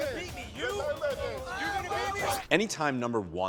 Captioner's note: yelling